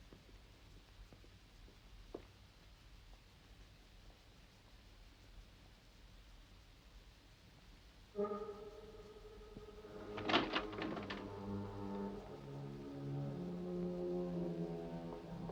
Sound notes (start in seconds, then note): 8.1 ominous music; 9.9 door clicks